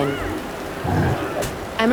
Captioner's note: grunt